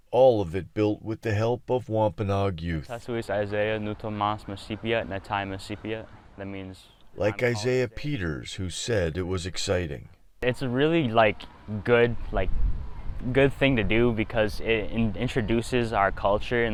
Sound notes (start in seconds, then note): 3.2 speaking Native language